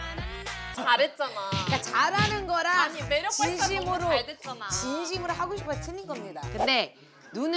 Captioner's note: bickering